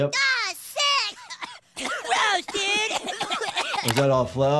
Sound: boys coughing

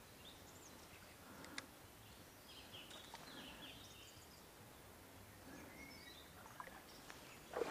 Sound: birds... you guessed it, - chirping

